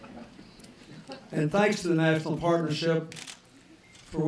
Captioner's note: laughter